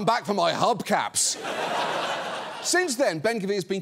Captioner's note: audience laughs